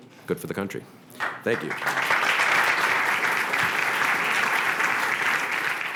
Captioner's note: applause